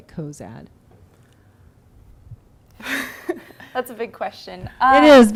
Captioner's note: laughing